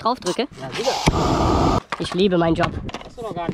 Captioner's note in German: brennerrauschen